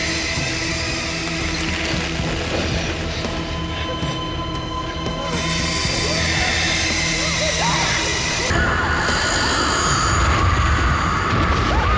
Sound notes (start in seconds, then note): 7.5 Maggie screaming